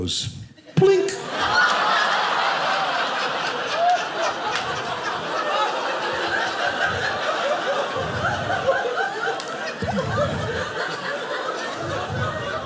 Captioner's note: audience laughing